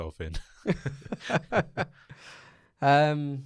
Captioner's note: laughs